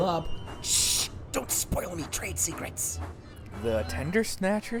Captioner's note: whispering